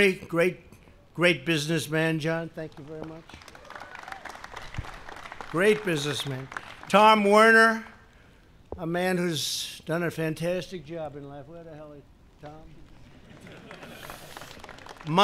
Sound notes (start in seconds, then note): 2.6 applause; 13.0 laughter and applause